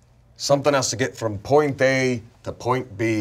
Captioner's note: none